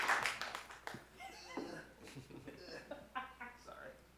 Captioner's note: laughs